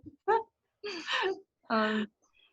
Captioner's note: laughs